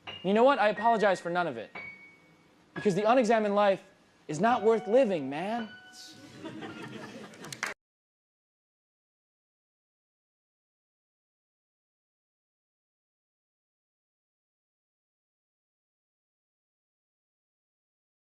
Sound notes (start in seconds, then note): 6.2 audience laughs lightly